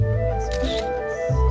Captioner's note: camera clicking